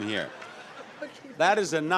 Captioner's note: audience laughs